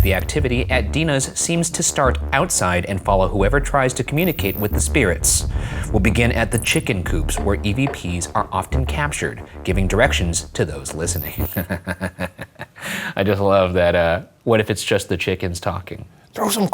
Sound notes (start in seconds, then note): 11.5 snickering